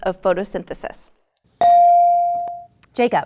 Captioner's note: ding